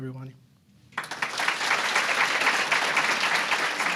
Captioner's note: applause